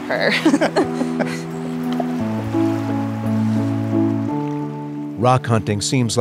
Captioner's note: soft gentle music; laughing